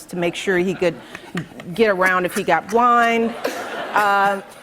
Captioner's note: laughter